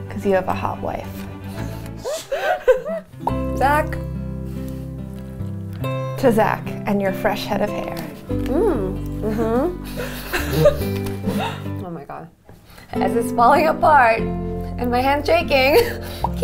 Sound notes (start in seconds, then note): 2.0 laughing